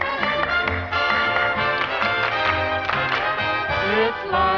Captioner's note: clapping